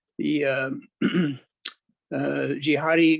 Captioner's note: clears throat